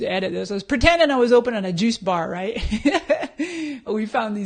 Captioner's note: laughs